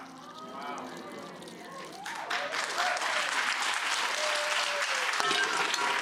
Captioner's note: audience oohing; audience clapping